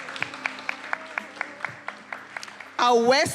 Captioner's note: attendees applauding